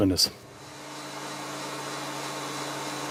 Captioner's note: A faint hum of machinery